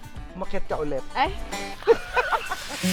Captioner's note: both laughing